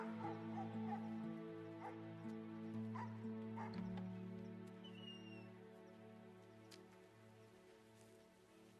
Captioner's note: dog barking